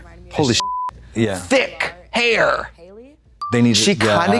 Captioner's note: beep